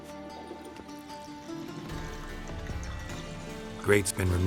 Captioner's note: water flowing